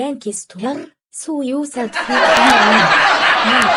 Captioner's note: audience laughing